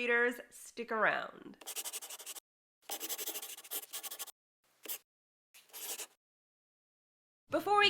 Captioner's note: the sound of a pen scratching. LOGO